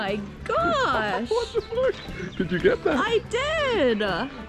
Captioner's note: laughing